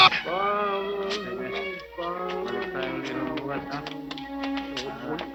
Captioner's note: people chattering